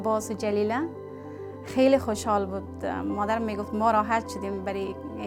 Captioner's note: speaking foreign language